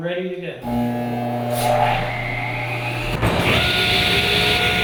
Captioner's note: machine rumbling